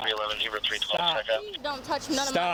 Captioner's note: radio chatter